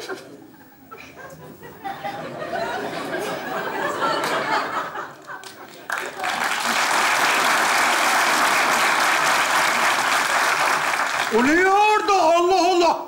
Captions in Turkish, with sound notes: (Alkış sesleri) O ne orda Allah Allah